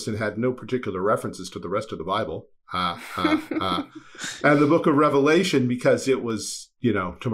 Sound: ha ha ha

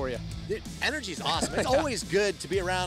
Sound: laughter

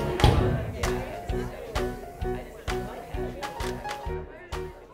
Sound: crowd murmuring

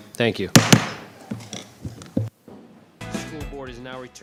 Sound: gavel bangs twice

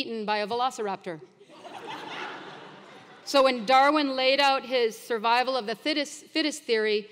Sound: laugh

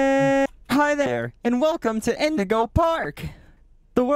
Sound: more Robotic

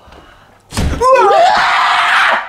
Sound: bang

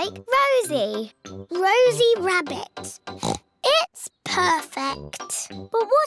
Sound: oinks

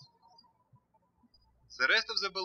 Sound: birds chirping

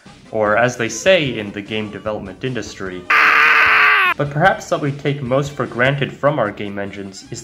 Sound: screams

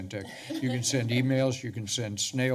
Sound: laughter

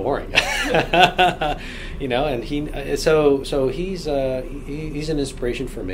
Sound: laughs

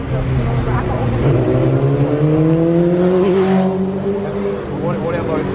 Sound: engine sound

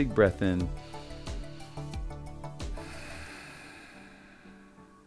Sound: breathes deeply

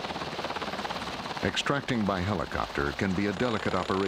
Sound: voiceover

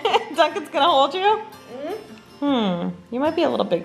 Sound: laughs

